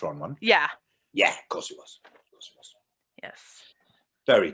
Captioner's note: whispers